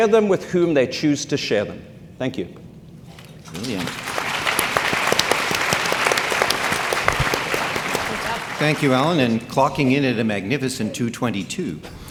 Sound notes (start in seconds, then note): 3.1 audience clapping